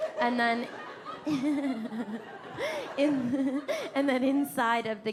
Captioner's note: laughing